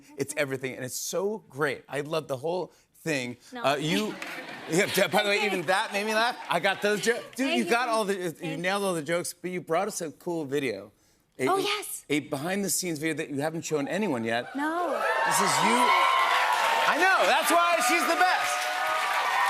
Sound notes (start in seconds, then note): 14.6 cheers and applause